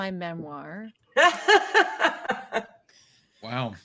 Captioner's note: Alicia laughs